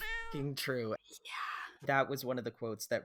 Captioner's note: whispered